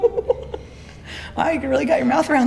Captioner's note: interviewee laying down giggles; both giggle